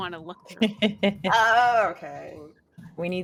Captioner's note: laughing